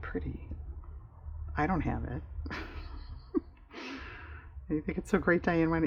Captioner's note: laughs